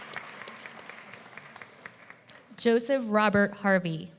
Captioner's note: applause